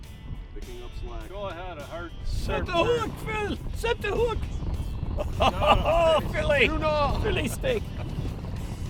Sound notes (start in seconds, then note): 5.2 laughing